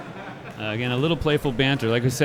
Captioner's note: laughing